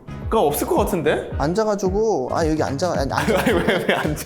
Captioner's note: rambling